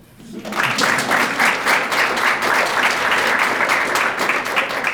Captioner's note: crowd clapping